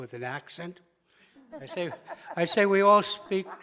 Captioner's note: laughs